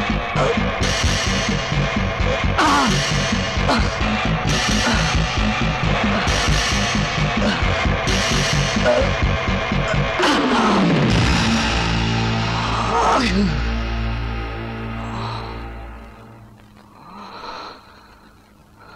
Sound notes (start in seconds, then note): 16.8 panting